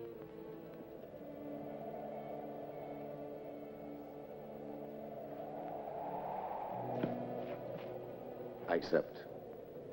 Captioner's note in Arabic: تهب الرياح